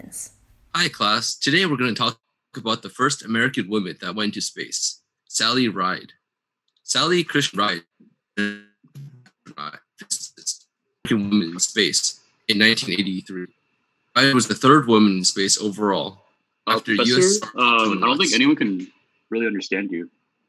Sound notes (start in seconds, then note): 8.6 distortion